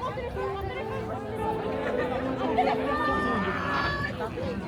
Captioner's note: people chattering